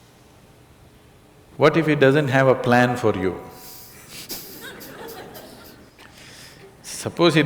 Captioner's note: laughter